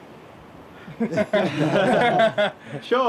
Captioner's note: laughter